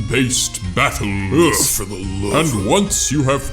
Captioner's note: mumbling